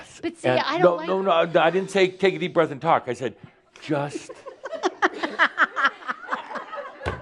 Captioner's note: giggles